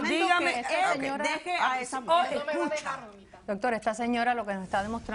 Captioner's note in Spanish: Comentarios al unísono